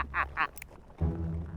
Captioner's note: laughs; gun clicks; dramatic music